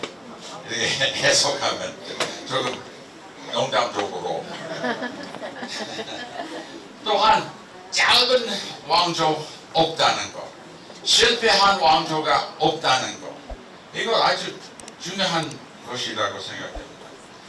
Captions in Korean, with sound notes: 이렇게 해석하면 조금 농담적으로 This interpretation is a bit of a joke (웃음) (laughs) 또한 작은 왕조가 없다는 것 Also, that there are no short-lived dynasties 실패한 왕조가 없다는 것 There are no failed dynasties 이건 아주 중요한 것이라고 생각합니다 This is very important.